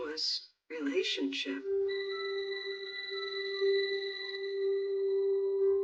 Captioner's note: phone rininging